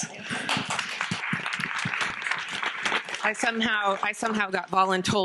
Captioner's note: audience clapping